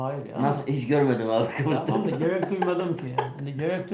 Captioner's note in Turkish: kahkaha